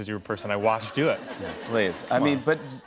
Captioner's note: laughter